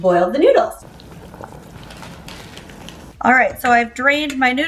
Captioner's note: water bubbling